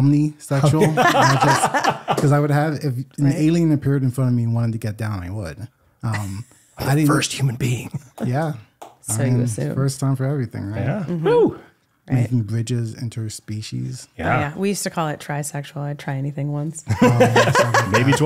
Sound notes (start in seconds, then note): 0.7 laughing; 16.9 laughing